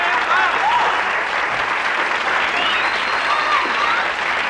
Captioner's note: audience applauding